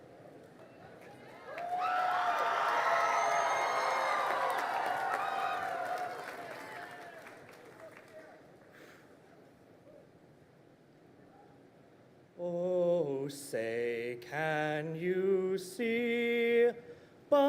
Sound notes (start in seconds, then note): 0.9 crowd cheering and applauding